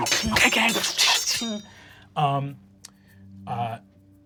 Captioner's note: swords clattering